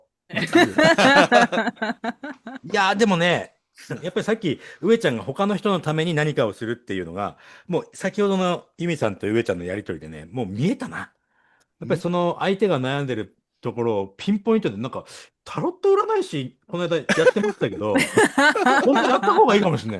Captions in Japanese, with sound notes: [笑い] やっぱりその相手が悩んでるところをピンポイントでなんかタロット占い師ないだやってましたけど本当やった方がいいかもしんないね。 [笑い]